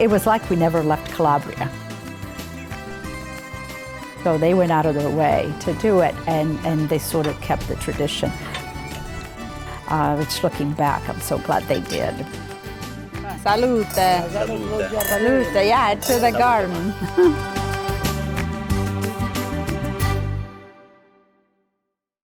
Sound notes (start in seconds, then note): 3.0 happy instrumental music; 13.3 clinking; 18.3 happy music